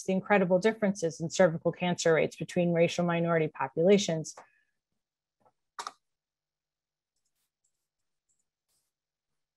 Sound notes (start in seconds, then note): 5.8 mouse clicks